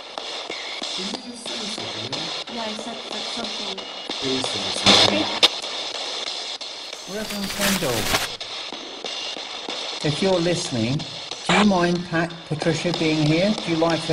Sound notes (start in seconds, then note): 6.8 screen crackling